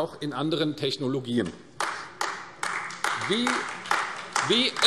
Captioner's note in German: Beifall AfD